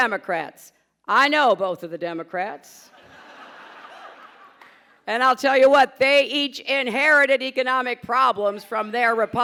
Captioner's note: laughter